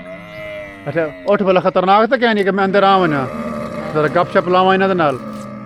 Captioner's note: speaking Saraiki